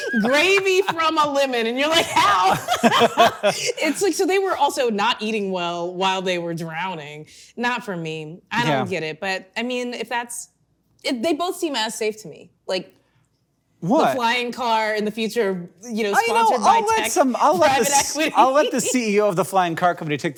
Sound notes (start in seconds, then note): 0.0 laughing; 2.9 both laughing